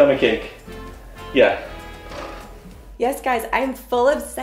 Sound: snores

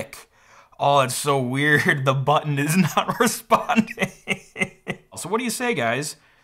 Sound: laughs

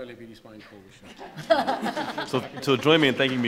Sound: audience laughing

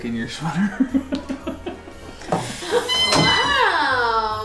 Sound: laugher

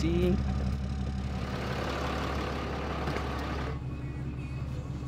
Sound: engine rumbling; faint country music

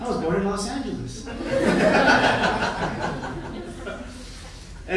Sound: laughing

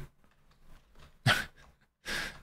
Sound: chuckles

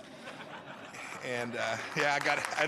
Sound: laughter and applause

